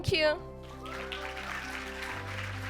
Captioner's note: cheers and applause